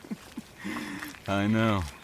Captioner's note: chuckles